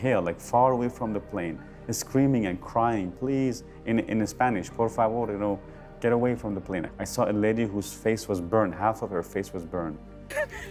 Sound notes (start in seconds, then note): 4.9 man speaking Spanish